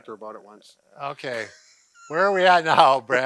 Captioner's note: laughs